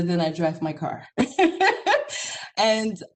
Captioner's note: laughs